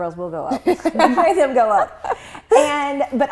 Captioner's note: laughs